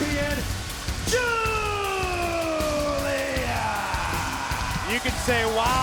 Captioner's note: crowd cheers